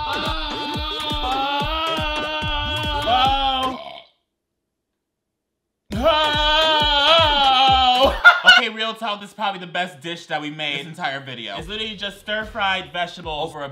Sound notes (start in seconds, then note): 0.1 yells loudly; 3.6 burps